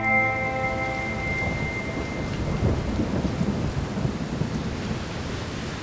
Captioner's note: thunder and rain